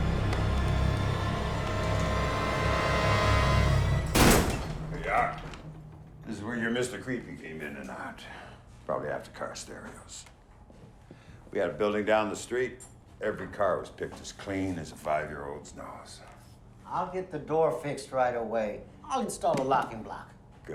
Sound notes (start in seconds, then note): 0.0 dark menacing music; 4.3 door bangs